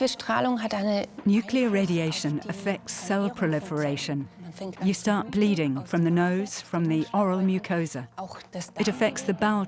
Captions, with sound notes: (in German) (dubbed in English) Radiation affects cell proliferation. You start bleeding, from the no, from the oral mucosa.